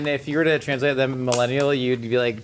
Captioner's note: cap clicking